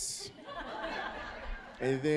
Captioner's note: audience laughing